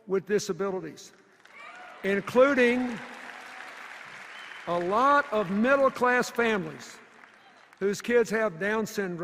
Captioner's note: cheers and applause